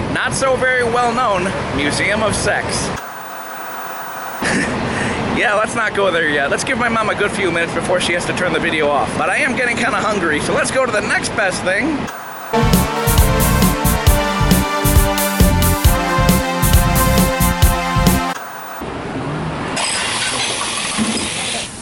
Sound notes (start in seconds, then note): 3.0 white noise scratching; 12.1 white noise scratching; 12.5 upbeat rock music; 18.3 white noise scratching